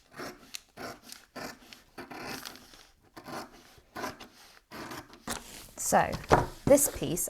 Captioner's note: scissors snipping